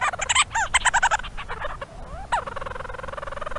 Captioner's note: bird squawking; bird calling